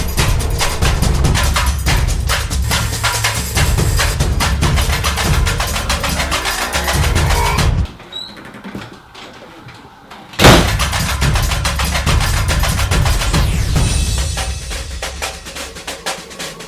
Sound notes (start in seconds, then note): 10.4 slam